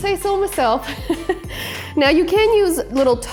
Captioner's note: laughs